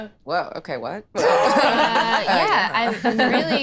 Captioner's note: all laughing